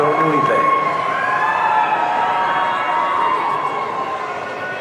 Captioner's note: audience cheering